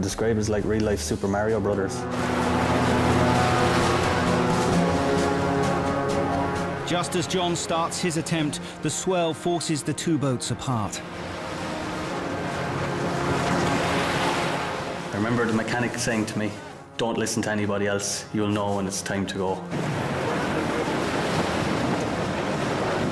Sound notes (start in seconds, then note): 2.3 dramatic music; 11.2 waves crashing; 19.6 waves crashing